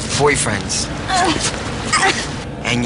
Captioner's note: girl moaning